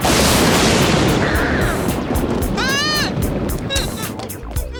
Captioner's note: grunting; thunder; screaming